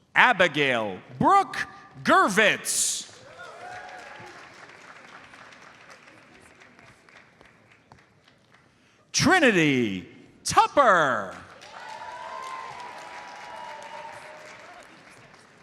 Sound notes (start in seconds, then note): 3.0 audience applauds; 11.5 audience cheers and applauds